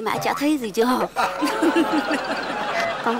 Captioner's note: laugh